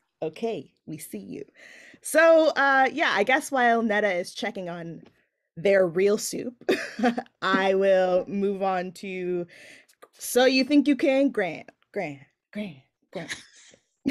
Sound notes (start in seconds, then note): 7.3 laughing